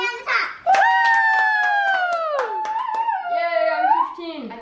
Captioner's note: everyone cheering and applauding happily